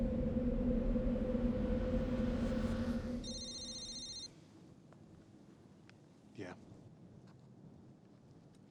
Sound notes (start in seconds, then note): 3.2 cell phone ringing